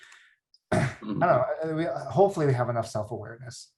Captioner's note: clears throat